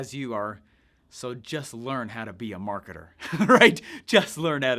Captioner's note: laughs